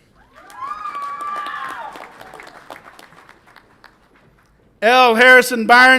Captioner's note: audience applauds and cheers